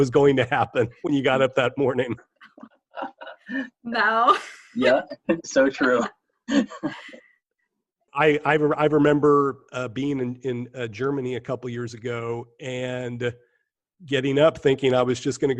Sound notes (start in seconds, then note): 3.0 laughter